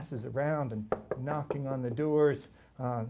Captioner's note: knocking